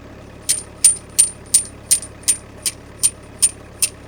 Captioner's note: stake tapping